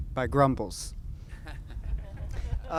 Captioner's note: laughs